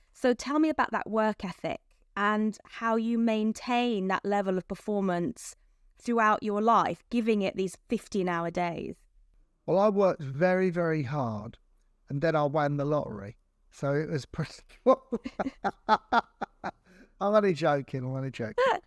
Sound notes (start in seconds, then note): 14.8 laughs